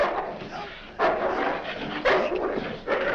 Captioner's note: dog barking